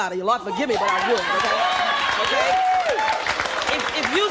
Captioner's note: applause